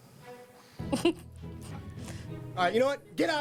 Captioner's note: giggles